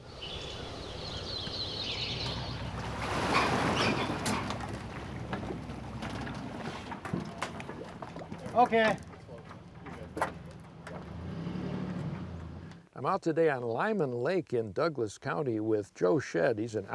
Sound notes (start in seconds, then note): 0.0 birds chirping; 3.4 water sloshing